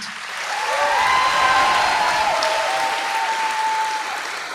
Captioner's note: applause